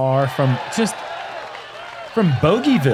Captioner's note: applause